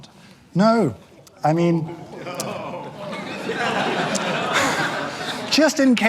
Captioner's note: audience groans